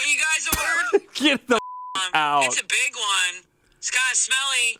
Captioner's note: beep